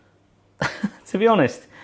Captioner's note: laughs